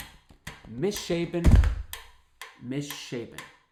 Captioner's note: foot tapping